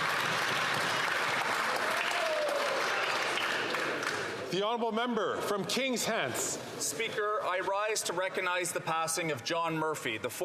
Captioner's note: some Applause